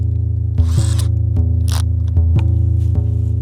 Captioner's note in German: Surren eines Elektrowerkzeugs